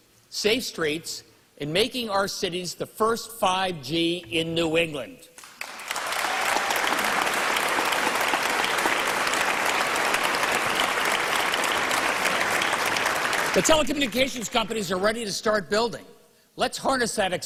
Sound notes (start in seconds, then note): 9.8 applause